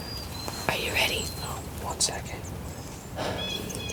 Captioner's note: whispering